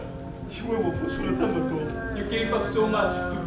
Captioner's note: speaking in a foreign language